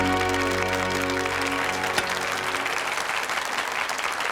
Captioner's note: audience applauds